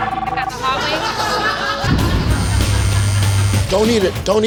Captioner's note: laughter